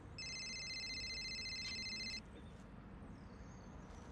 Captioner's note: cellphone ringing